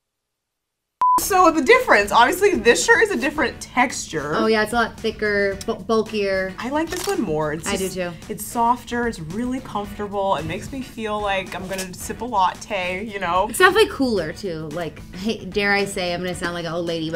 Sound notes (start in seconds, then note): 1.0 beep